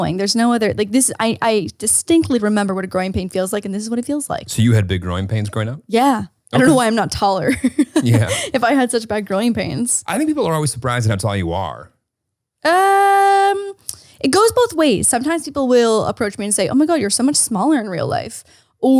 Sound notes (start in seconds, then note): 7.5 chuckles